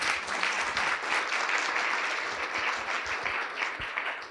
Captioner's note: audience applauding